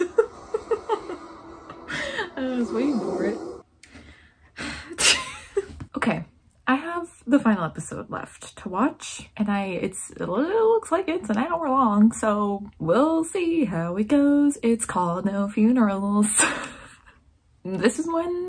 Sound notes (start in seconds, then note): 4.5 deep sigh